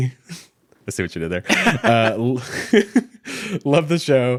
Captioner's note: laughing